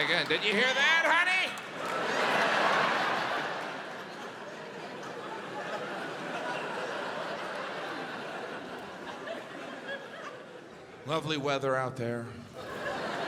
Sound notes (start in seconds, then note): 2.4 audience laughs; 12.6 audience laughs